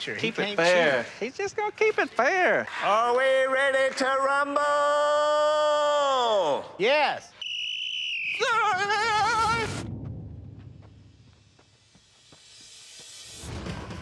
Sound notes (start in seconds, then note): 7.3 whistle blows